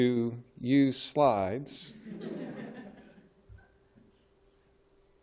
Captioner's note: laughter